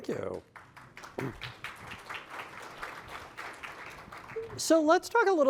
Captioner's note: applause